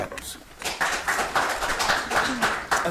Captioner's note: audience applauds